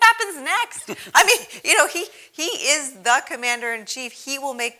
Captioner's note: laugh